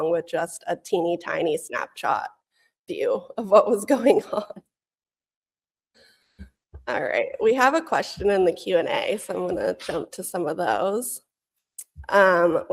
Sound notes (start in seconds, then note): 4.8 laughs